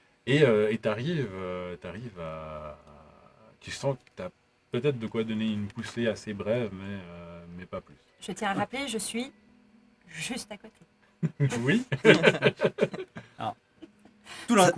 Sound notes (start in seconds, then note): 11.2 chuckles; 11.2 laughs